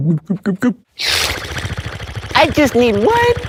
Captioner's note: Fishman spits like a machine gun; Fishman guzzles beverage